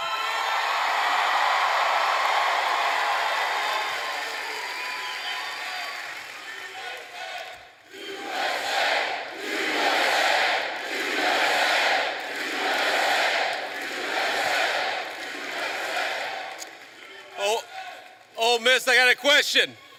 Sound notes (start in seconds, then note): 0.0 cheers and applause; 9.0 audience chanting "USA"